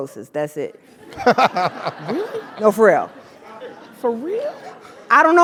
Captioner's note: laugh